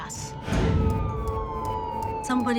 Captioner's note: siren wailing